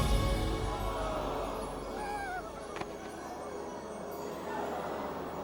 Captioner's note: crowd gasping